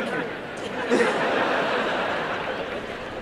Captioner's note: laughter and applause